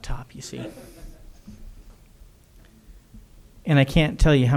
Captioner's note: audience laughter